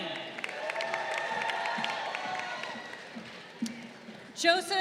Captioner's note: crowd cheering